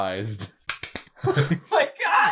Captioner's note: sarcastic clapping